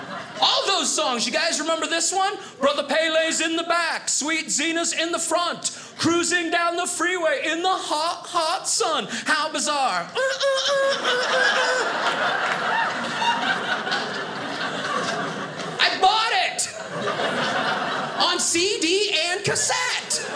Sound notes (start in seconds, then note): 11.8 audience laughing; 19.5 audience laughing